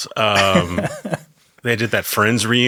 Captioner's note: laughs